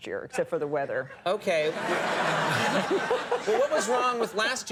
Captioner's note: audience laughs